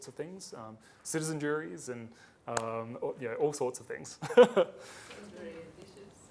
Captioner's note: laughs